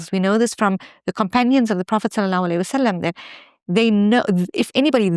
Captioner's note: speaks in foreign language